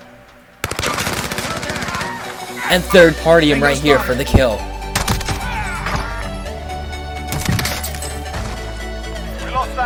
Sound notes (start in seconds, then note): 0.6 gun firing; 5.0 pistol shooting; 5.4 game characters yelling